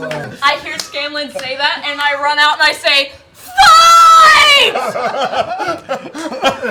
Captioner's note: shouting